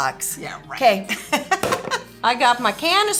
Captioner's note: laughs